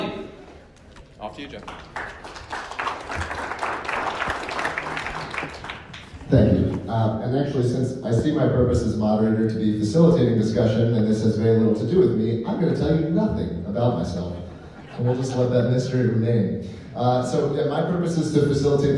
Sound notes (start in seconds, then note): 1.4 clapping